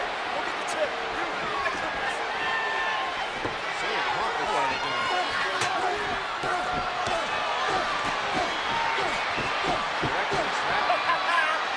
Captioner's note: applause